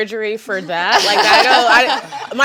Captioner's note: panelists laughing